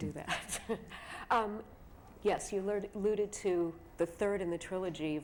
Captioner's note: laughs